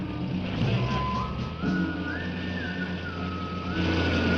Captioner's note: engine revving